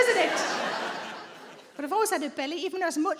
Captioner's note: audience laughs